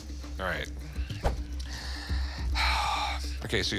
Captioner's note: sighs